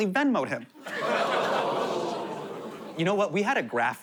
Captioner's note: audience groans